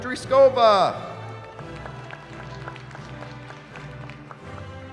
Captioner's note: applause